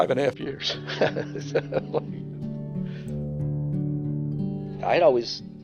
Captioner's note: laughter